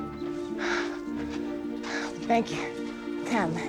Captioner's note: breathing heavily